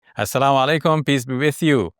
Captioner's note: speaking foreign language